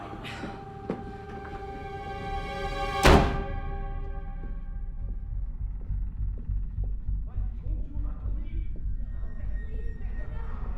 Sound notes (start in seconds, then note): 0.3 tense music; 2.8 door bangs